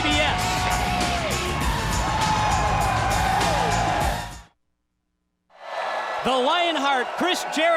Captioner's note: crowd cheering